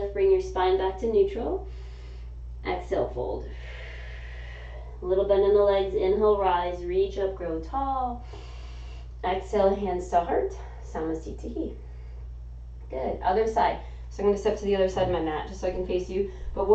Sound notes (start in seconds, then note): 3.4 exhaling; 3.5 inhaling; 8.2 inhaling